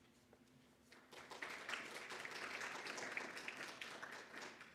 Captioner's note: audience clapping